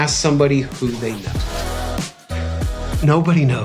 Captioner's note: whoosh